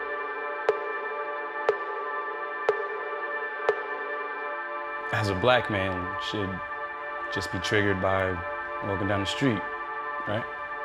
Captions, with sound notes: - [Male Voice] As a Black man, shit just be triggered by walking down the street, right?